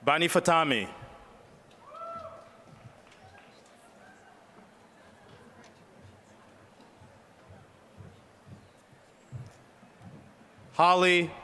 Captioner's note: applause